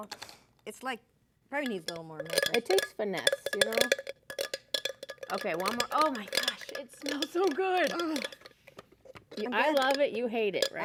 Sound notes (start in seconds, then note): 0.6 blender grinding; 9.1 clanking of the jar